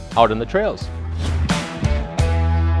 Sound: air whooshes; rock music

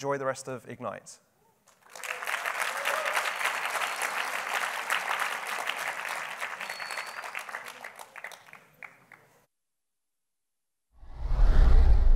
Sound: applause

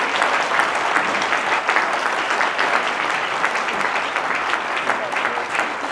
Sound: applause

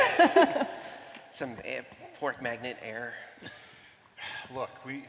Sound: laughter

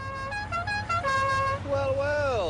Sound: horn honks melody

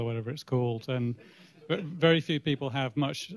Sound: laughter

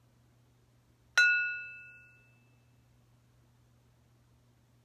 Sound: ringing

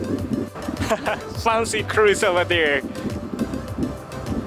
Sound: laughs

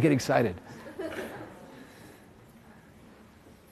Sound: audience laughs

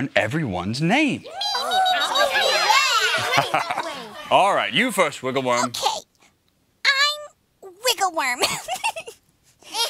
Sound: giggling

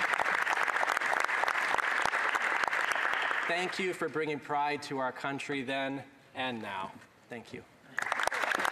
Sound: applause

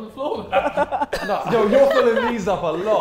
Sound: Sidemen laughing

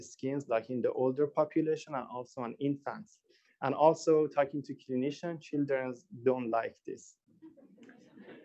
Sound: laughter

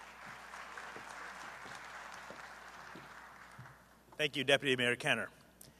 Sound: applause

